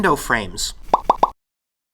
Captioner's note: three rapid popping sounds